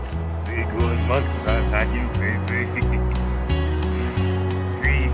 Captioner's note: laughs maniacally